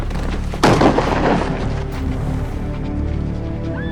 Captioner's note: gun bangs